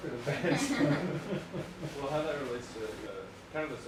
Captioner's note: chatting in background, laughter